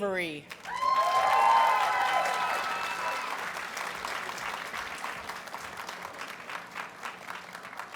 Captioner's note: audience cheers and applauds